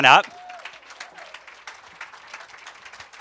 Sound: cheers and applause

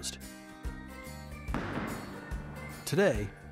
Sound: ball strikes

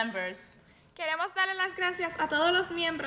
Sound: speaking in spanish

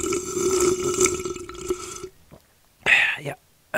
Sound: slurping coffee

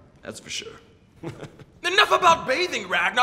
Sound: chuckling

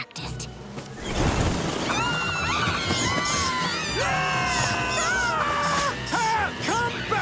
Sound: screaming

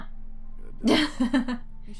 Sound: chuckles

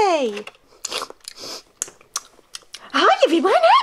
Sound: Bubbleisha smacks on gum

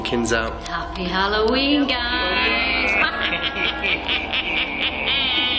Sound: cackles

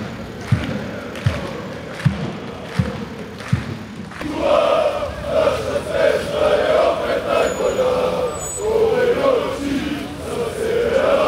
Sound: hooligans Chanting

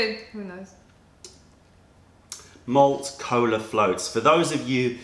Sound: sips tea

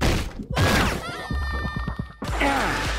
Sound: banging; screaming

